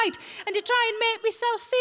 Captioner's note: none